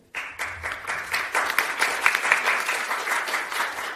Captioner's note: applause